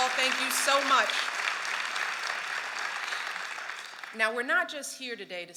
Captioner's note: applause